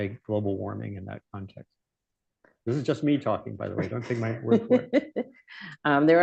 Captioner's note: laughter